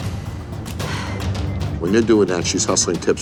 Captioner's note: exhales